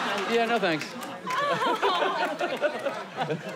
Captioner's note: laughing